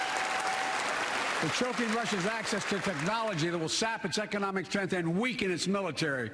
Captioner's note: applause